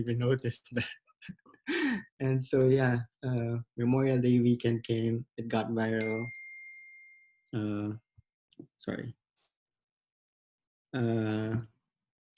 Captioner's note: phone pings